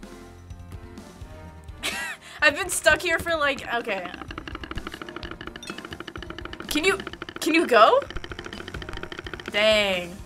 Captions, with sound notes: (chortles) I've been stuck here for, like-- Okay. (timer rattling) Can you-- can you go? Dang.